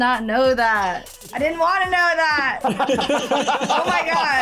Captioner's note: all laugh